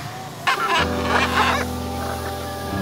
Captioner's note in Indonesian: Suara Burung